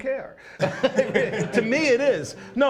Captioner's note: laughs